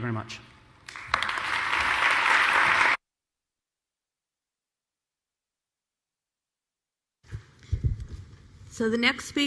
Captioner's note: applause